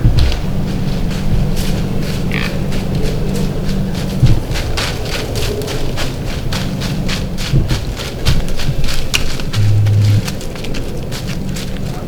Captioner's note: sound of running, buck grunting